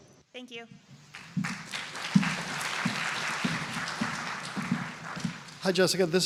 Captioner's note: applause